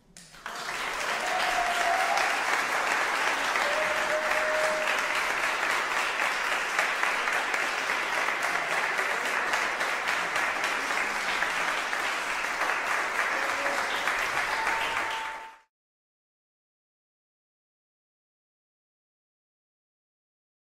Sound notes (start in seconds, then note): 0.1 applause breaks out, scattered cheers; 14.6 applause fades